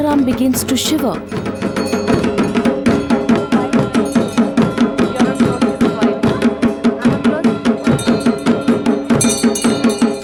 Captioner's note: bell jingling; intense drumming